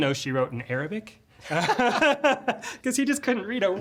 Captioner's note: laughter